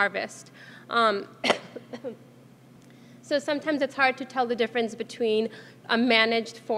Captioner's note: cough